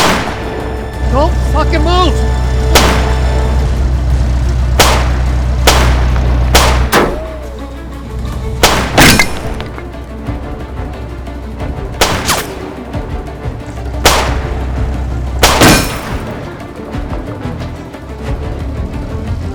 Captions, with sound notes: Don't fuckin' move! [guns blasting] [bullets pinging]